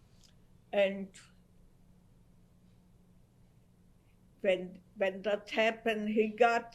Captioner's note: pauses for 3 seconds